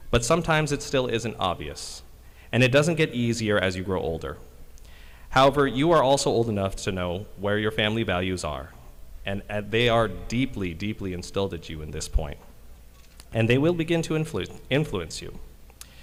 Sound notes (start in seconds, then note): none